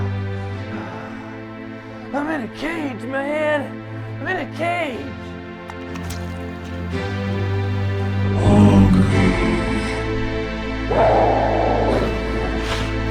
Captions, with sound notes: - I'm in a cage, man! I'm in a cage! - Hungry (roars).